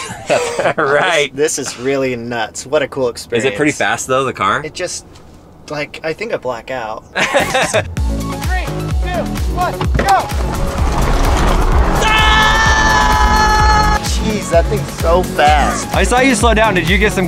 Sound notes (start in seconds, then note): 0.1 laughing; 7.2 laughing; 10.6 upbeat techno music; 11.8 screaming